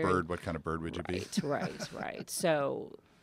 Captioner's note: laugh